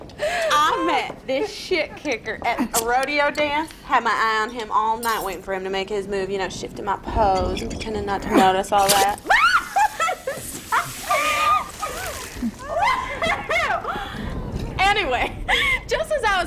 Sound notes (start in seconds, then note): 8.7 beer hisses; 8.8 beer cap pops; 9.2 scream & laugh